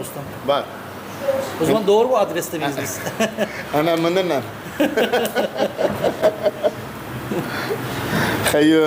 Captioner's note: laugh